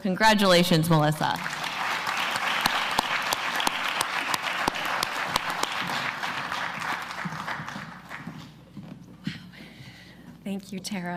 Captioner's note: applause